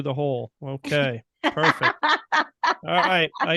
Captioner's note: laughing